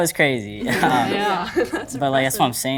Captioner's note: everyone laughs